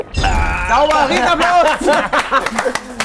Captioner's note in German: Lachen